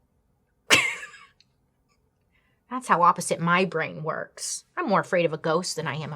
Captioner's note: laughs